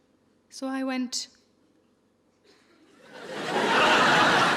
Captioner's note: audience laughing